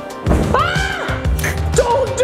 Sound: screams

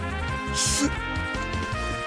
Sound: gasps

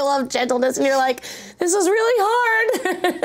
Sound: laughs

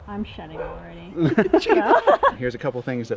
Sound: laughing

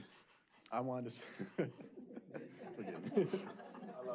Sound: laughter

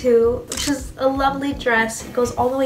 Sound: camera snaps

